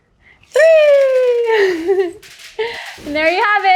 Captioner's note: sprinkles clattering; giggling